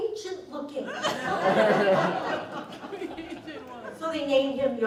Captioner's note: laughter